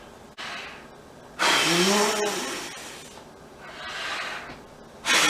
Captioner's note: blows air forcefully